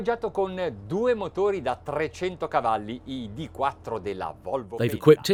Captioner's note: speaking foreign language